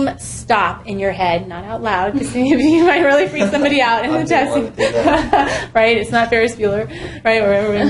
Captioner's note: laugh